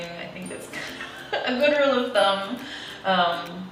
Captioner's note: laughs